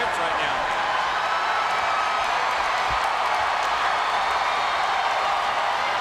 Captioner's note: audience cheering and clapping